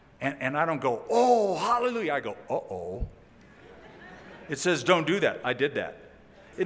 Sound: laughter

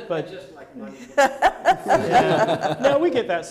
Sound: audience laughing

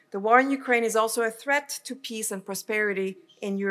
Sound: none

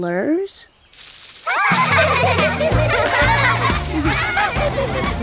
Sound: laughing

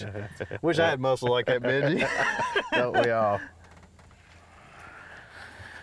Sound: laughs

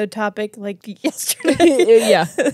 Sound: laughs

